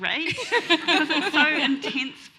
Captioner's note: laughs